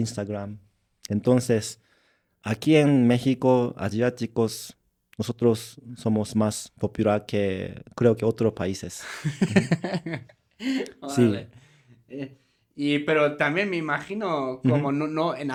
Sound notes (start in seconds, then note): 9.1 laughs